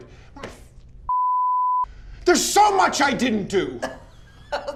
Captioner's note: beep; laughs